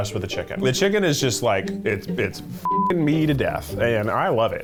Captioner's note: beep